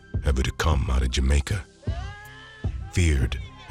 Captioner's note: woman wailing